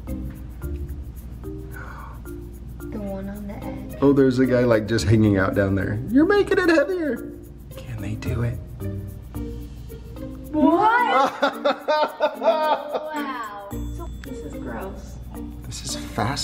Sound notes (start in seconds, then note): 10.6 kids exclaim; 10.8 laughs